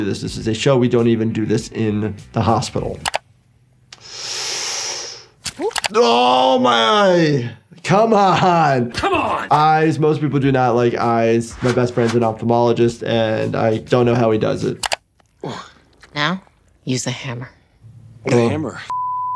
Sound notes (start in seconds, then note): 3.0 mouse clicking; 3.9 Jordan inhaling; 8.9 laughing; 14.8 mouse clicking; 18.8 beep